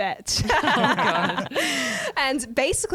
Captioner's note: laughter